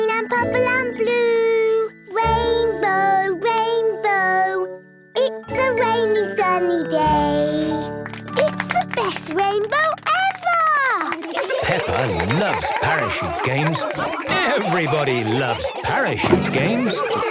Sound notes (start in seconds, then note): 11.1 laughter